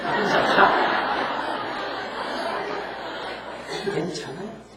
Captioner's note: audience Laughter